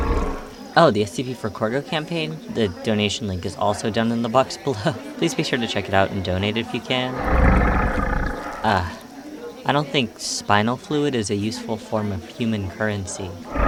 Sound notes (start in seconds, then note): 7.1 Azazel purrs; 13.4 Azazel huffs